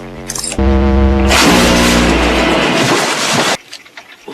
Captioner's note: loud crash